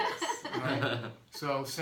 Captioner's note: laughing